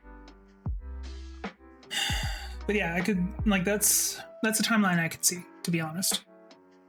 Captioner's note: sigh